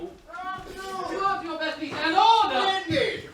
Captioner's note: men call out